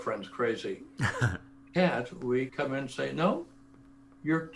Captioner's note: laugh